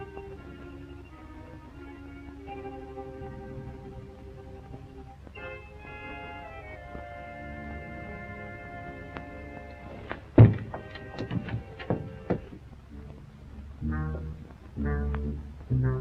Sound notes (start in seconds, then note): 10.0 thumping; 12.9 suspenseful music